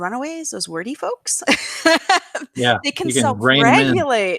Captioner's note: laughs